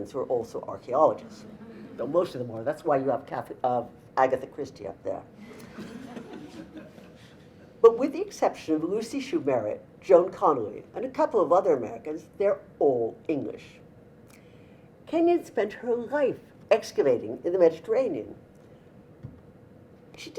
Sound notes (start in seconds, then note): 5.4 audience laughter